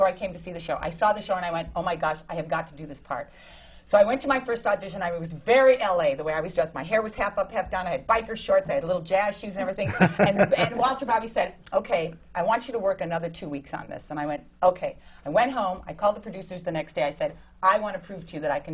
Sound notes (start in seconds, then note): 9.8 laughs